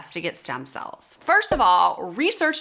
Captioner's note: cork popping